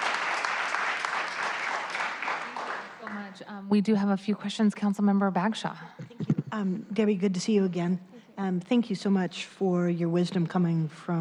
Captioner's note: applause